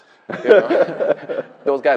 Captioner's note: laughter